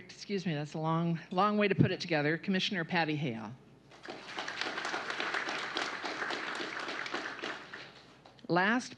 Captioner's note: applause